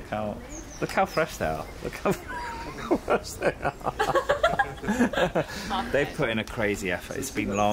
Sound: laughing

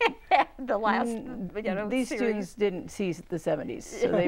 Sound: laughing

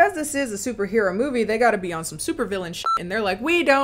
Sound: beep

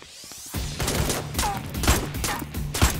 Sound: gunshots

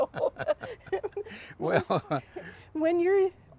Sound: laughing

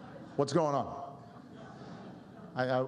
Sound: laughter

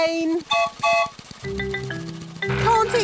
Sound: whistle blows

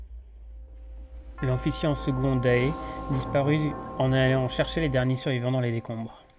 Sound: knell

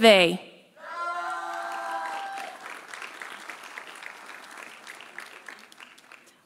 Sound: audience cheering; audience applauding

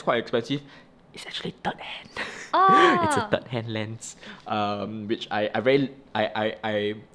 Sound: whispers

